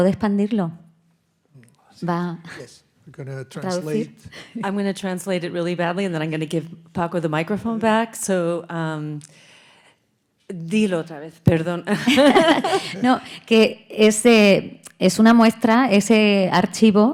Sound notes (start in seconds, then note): 8.7 speaking in Spanish; 12.0 audience laughing; 13.1 speaking in Spanish